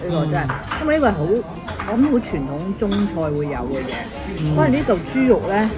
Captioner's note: Cantonese